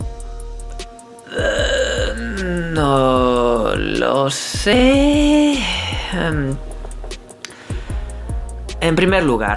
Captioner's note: pain and tiredness in his voice